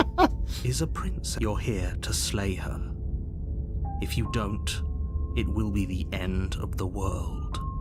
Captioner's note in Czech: smích